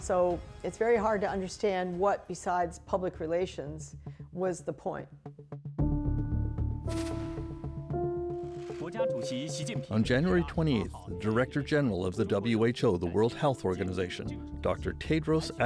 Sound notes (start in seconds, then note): 10.7 speaking Foreign Language